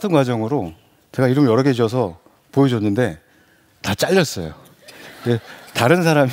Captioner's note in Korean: 웃음